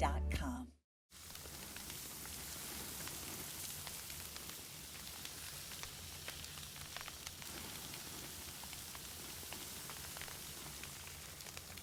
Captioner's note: sizzling steak on a grill